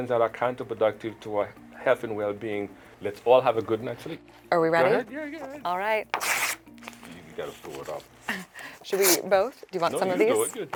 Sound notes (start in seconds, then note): 6.1 rips paper